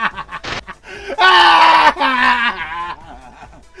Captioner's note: schizoid screeches